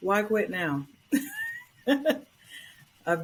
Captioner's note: laughter